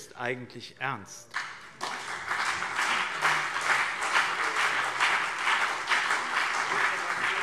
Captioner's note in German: Beifall BÜNDNIS 90/DIE GRÜNEN und CDU